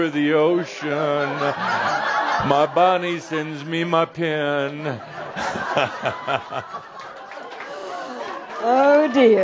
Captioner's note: lots of laughter